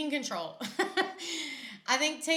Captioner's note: laughs